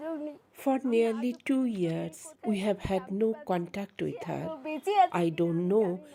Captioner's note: speaking alternate language